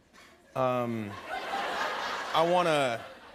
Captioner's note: laughter